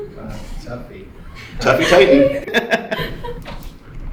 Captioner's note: laughter